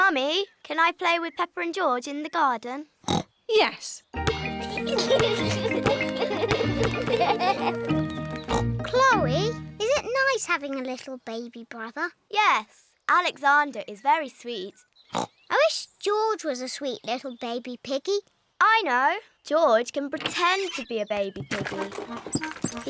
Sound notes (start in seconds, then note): 3.0 oinks; 4.3 youngsters giggle